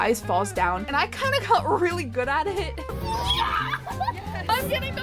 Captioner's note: screaming